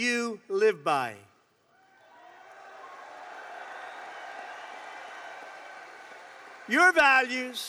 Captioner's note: applause